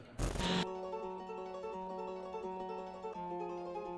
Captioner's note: static